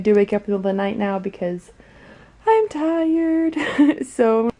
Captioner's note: chuckling